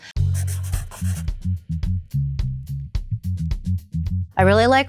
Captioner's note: pencil scribbling; upbeat music